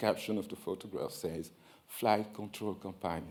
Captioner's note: foreign language